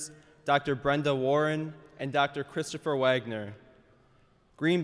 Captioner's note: none